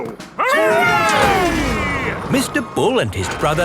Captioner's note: all cheering